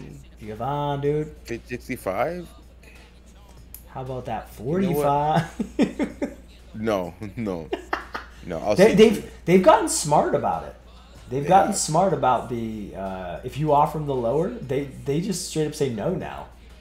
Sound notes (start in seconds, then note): 6.9 laugh